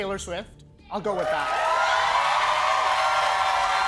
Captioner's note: cheers and applause